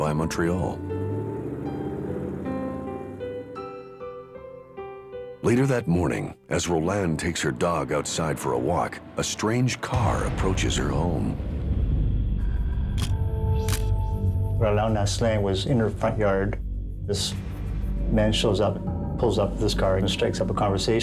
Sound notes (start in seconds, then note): 13.6 camera shutter click